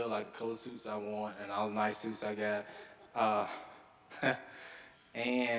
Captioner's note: chuckles